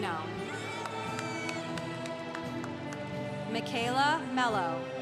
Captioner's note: congregation cheering